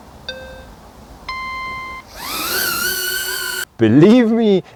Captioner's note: drone starting sound